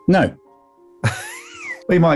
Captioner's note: chuckling